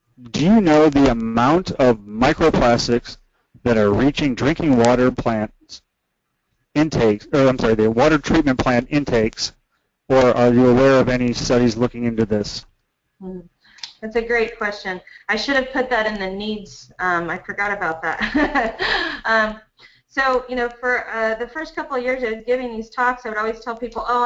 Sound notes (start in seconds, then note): 18.1 laugh